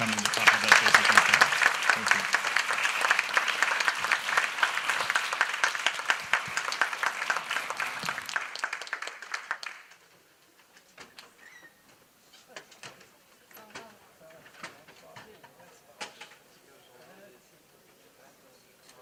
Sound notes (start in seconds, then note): 1.5 applause